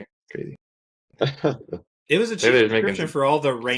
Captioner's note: laughs